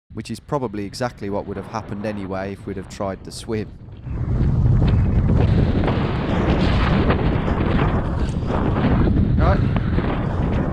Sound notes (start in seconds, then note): 5.5 wind rushing